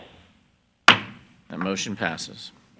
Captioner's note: gavel banging